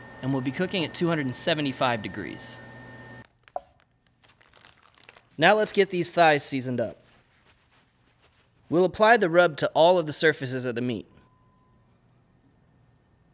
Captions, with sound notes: and we'll be cooking at 275 degrees. (bag crinkling) Now let's get these thighs seasoned up. (paper rustling) We'll apply the rub to all of the surfaces of the meat.